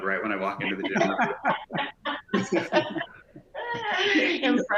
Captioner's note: laugh